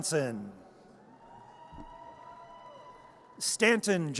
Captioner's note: audience cheers